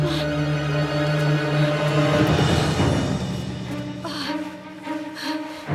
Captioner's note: thrilling music; Freddie struggling